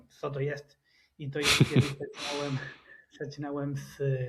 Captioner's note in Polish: śmiech